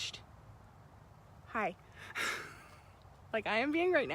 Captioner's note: laughs